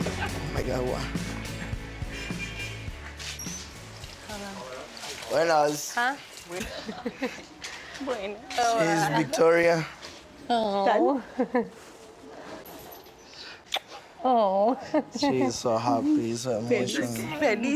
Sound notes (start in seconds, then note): 0.0 laughs; 1.1 foreign language; 5.3 foreign language; 6.5 laughs; 7.8 foreign language; 12.0 laughs; 17.5 foreign language